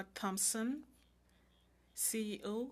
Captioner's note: speaking French